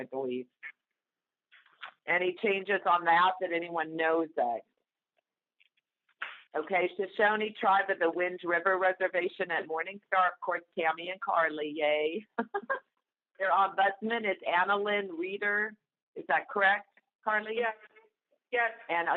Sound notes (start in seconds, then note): 4.9 silence; 12.4 chuckle